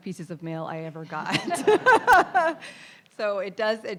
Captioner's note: audience laughing; laughs